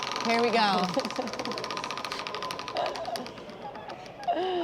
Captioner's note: laughter